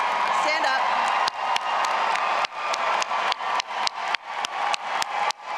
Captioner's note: all applauding and cheering